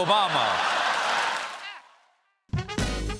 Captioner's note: cheers and applause